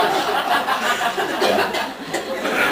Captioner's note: laughs